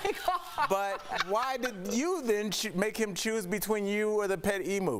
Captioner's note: laughter